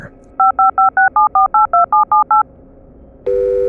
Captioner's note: phone dialing